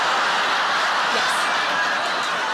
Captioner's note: audience laughs